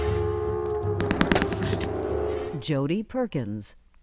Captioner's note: gun firing